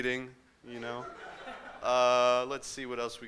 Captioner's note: laughter